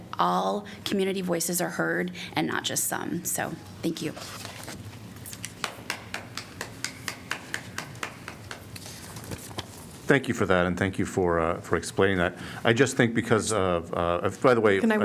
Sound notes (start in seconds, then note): 5.6 applause